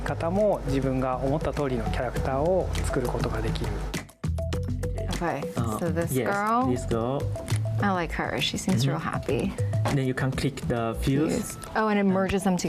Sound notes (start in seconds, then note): 0.7 speaking foreign language